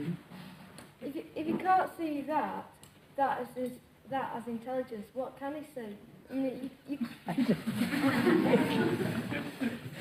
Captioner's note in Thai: หัวเราะ